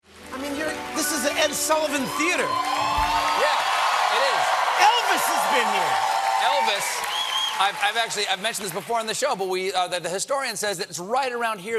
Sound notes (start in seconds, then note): 4.4 applause